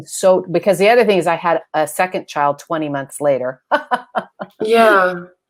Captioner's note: laughs